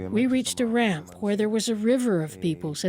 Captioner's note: speaking Foreign Language